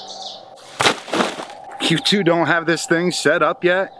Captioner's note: rustling